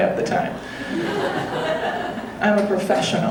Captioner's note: audience laughing